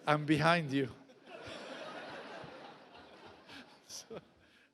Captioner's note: audience laughs